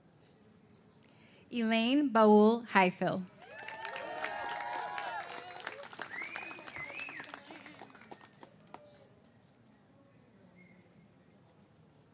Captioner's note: cheers and applause